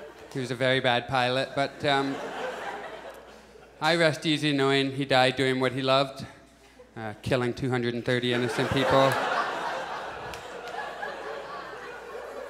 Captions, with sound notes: He was a very bad pilot. [Audience chuckles] I rest easy knowing he died doing what he loved, killing 230 innocent people. [Audience laughs]